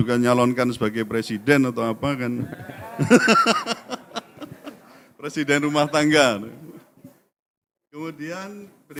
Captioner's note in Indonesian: tertawa